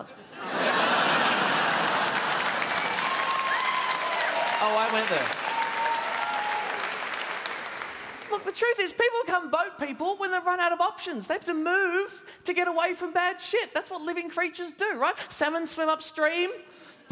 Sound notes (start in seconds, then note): 1.4 applause